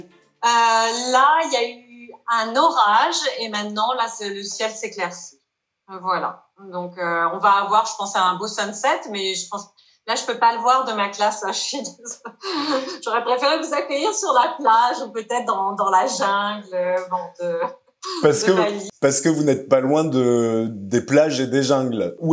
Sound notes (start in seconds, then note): 11.9 laughs